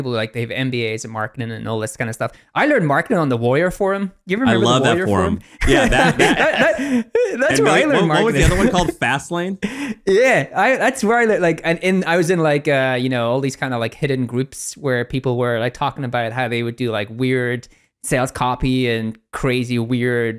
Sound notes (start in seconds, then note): 5.5 laughing